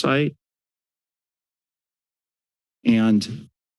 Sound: silence

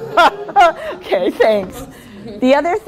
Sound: laughing

